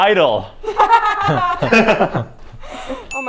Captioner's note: laughing